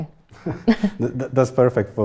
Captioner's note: laughter